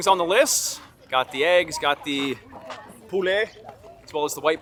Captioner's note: speaking in foreign language